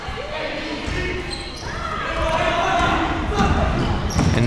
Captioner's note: people yelling